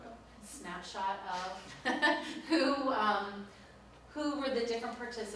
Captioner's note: laughs